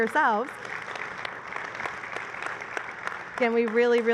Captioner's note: applause